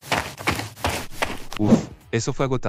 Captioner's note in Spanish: FX - Footsteps - On Multiple Dirt - Run; FX - Whoosh - 03